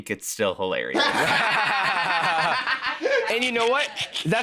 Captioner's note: both laughing